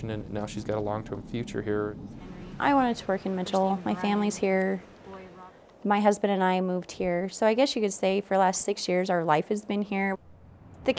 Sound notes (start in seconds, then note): none